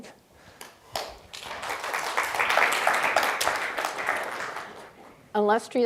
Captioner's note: audience clapping